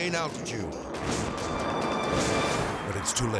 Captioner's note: dramatic music; jet roaring